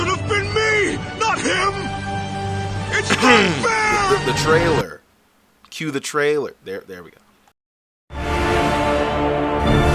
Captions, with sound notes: (*Coughs*) The trailer. Que the trailer. There... we go.